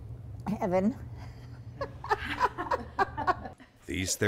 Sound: laughs

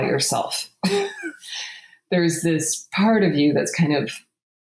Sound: laughs

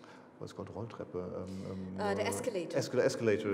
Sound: speaking foreign language

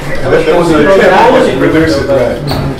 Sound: chatter

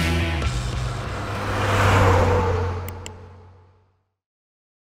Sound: car racing

